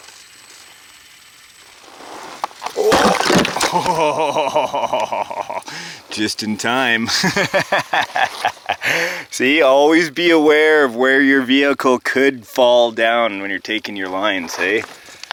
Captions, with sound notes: (tumble sound) (laughs) Just in time! (laughs) See, always be aware of where your vehicle could fall down when you're taking your lines, eh?